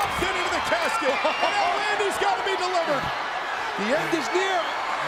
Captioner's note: laugh